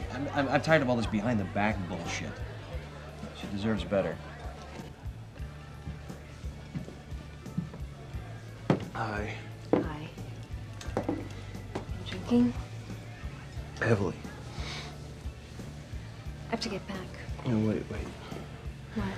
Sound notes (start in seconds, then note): none